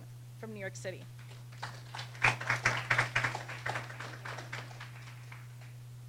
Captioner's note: applause